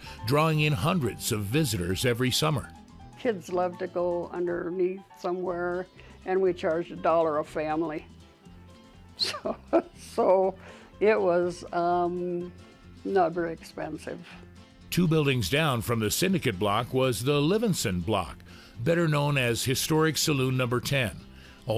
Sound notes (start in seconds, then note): 9.2 laughing